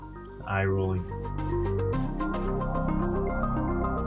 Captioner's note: voiceover